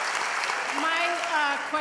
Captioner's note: applause